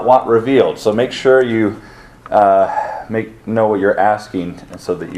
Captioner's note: sighs